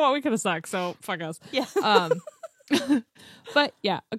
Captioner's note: laughs